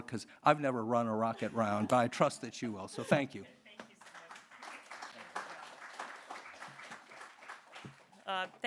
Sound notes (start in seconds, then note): 3.8 audience clapping